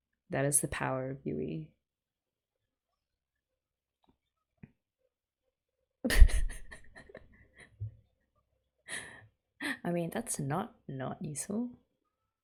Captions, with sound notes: That is the power of Yui. [laughs] I mean, that's not NOT useful.